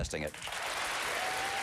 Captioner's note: applause